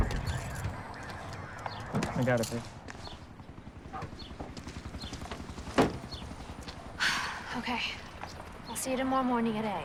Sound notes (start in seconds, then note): 2.8 helicopter flying; 7.0 sighs